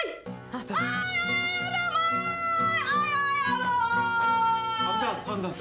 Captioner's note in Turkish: Çığlık atıyor; Bağırmaya devam ediyor